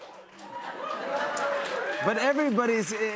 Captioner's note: cheers and applause